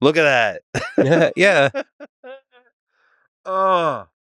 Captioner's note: Lex laughing